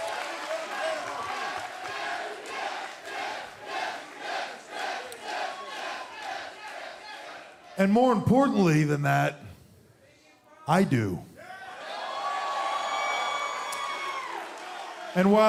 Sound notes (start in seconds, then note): 0.0 cheers and applause; 2.7 fans chanting